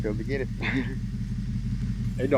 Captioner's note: laughing